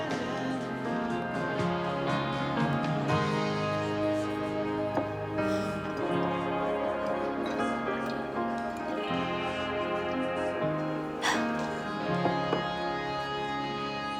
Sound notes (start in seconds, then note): 5.4 sighs; 11.2 chuckles